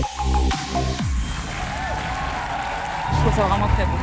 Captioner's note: applause